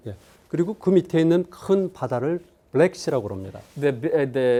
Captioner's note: speaking in Korean